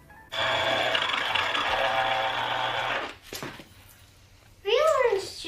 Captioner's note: juicer whirring